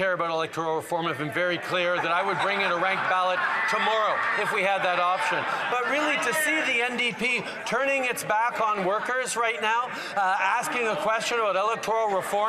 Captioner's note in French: voix de l'interprète